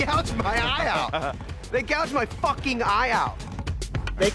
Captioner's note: laughs